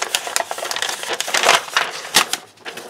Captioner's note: paper crinkles